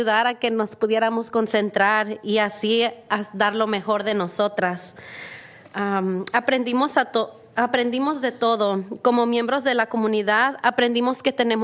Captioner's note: speak spanish